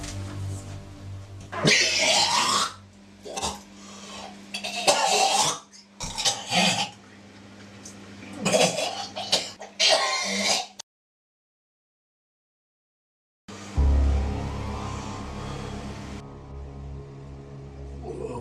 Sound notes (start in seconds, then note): 1.6 man throwing up